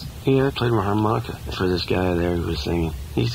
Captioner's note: voiceover